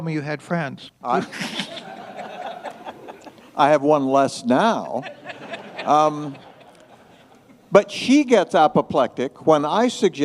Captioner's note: laughter